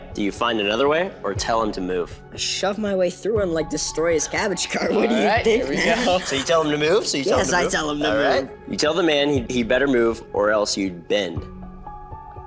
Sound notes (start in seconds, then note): 4.7 laughs